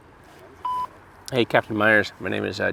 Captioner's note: answering machine beeps